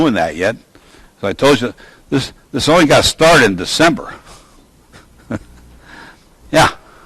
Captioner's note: laughs